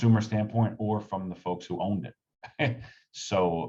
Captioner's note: laughs